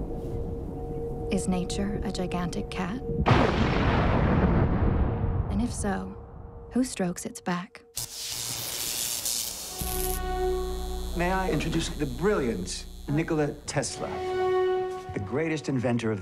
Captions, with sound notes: [distant thunder] Is nature a gigantic cat? [thunder clap] And if so, who strokes it's back. [electricity arc] My I introduce the brilliant Nikola Tesla.